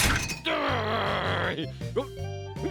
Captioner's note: groans